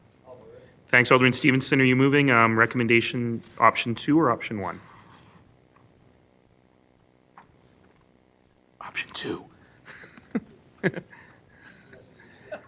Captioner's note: laughing